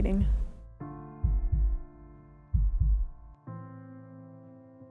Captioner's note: heartbeats